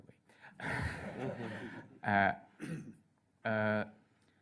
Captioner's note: laughter